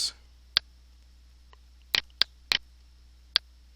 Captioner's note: clicking